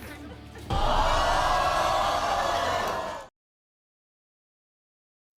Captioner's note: crowd jeering